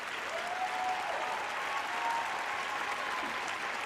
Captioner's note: applause